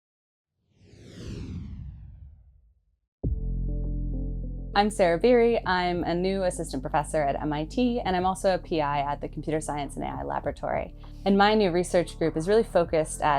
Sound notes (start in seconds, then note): 0.8 air whooshing; 3.2 dramatic music